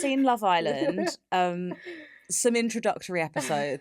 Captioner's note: laughs